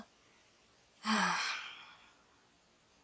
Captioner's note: sigh